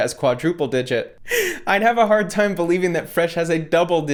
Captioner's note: laughs